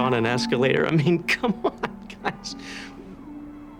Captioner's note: chuckling